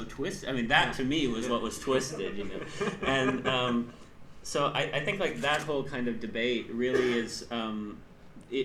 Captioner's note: laughs